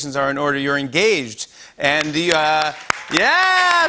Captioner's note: cheers and applause